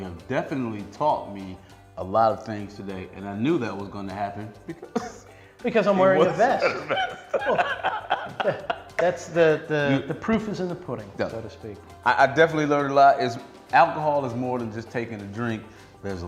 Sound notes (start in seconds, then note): 6.1 laughing